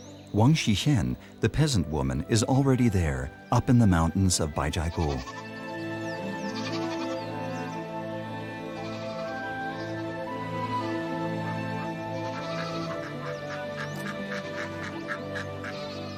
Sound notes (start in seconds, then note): 4.8 goat bleating; 5.7 soft music